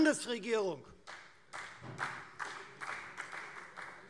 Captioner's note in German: Beifall Freie Demokraten